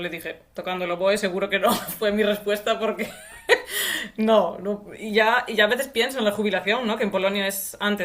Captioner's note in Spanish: risas